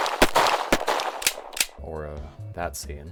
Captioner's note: gun clicks; gunshots